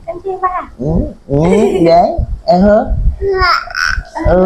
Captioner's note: talking to the baby